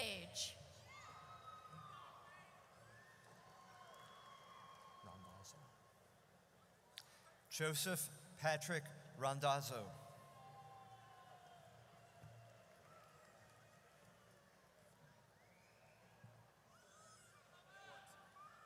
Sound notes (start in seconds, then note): 0.1 audience cheers; 10.3 audience cheers